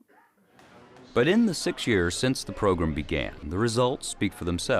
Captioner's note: voiceover